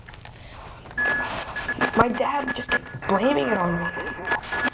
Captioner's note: buzzing